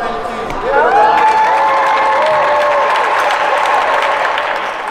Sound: cheering

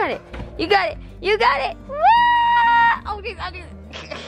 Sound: cheers

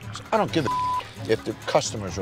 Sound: beep

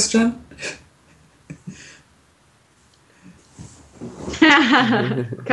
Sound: chuckling

